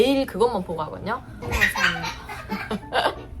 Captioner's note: giggles